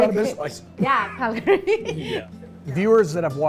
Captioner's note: laughter